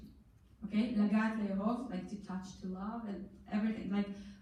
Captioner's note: in foreign language